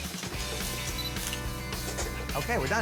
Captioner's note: upbeat guitar music; phone camera clicking